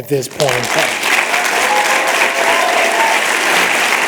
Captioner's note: applause